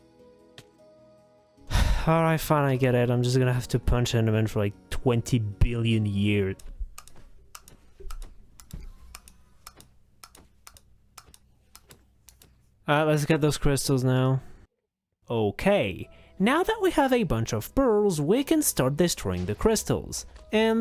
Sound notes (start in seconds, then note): 1.6 sigh